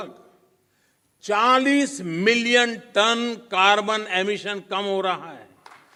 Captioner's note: applause